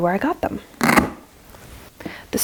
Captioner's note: velcro ripping sound